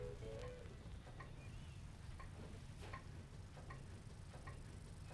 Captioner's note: clock ticking